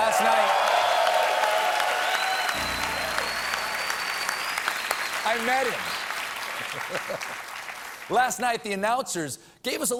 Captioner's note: cheers and applause